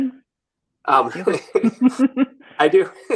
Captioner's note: both laughing